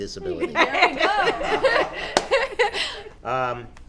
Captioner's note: laughing